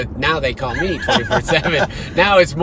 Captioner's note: laughter